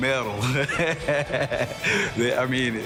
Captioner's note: laughing